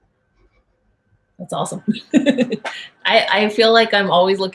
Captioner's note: laughs